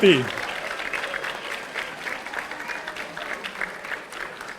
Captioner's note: audience applauding